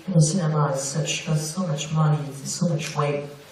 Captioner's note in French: none